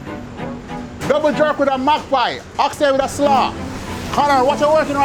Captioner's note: yelling